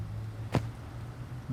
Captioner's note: thud